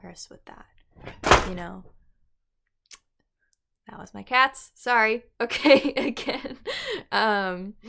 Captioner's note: cat bangs into my mirror